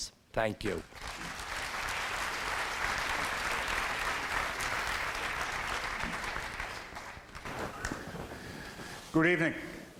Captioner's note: applause